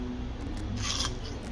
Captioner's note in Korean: 바삭